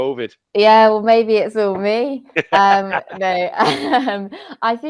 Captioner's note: laughs